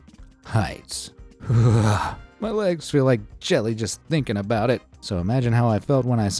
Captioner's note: shivers